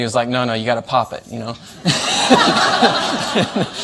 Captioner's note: laughter